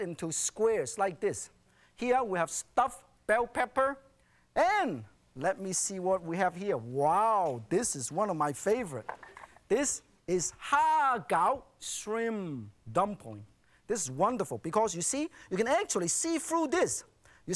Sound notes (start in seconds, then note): none